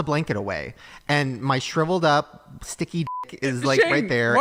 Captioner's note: beep